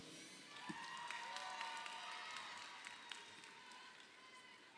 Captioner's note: crowd cheering